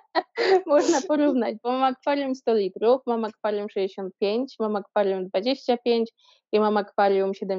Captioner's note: haha